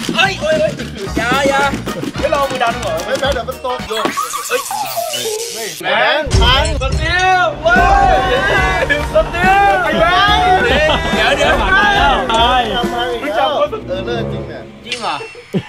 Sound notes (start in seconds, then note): 4.0 machine breaking down